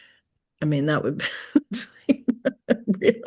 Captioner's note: chuckles